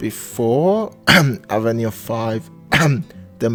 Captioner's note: cough